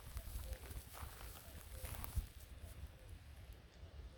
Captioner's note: nature sounds